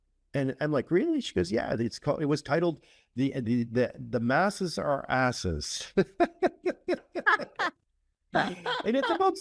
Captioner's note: laugh